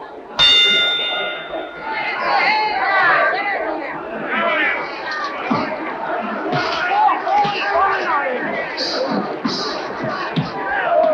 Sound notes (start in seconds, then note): 0.4 bell rings; 3.1 crowd cheers